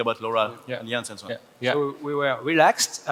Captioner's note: speaking foreign language